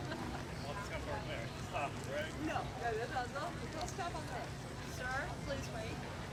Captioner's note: crowd members laughing; crowd chattering continues